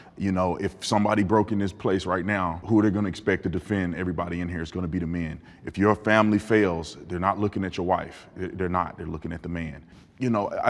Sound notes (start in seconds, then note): none